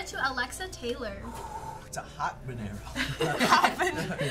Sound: exhaling; laughing

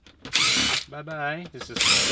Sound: battery-powered drill

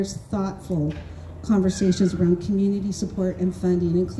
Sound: none

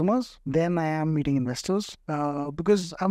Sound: speaks in Hindi

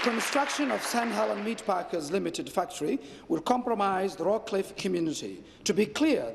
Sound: applause

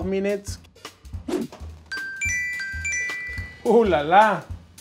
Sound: soft percussive music; alarm chimes

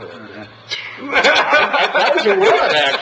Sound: members laughing

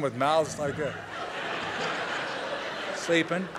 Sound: laughter

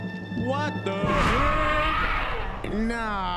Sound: screams

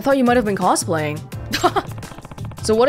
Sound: chuckles

